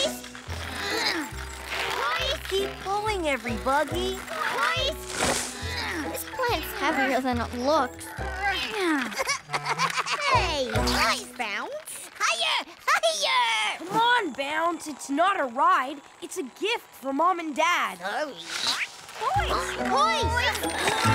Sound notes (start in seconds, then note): 5.4 grunts of effort